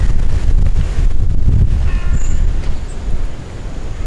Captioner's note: wind